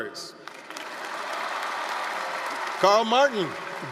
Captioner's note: applause, cheering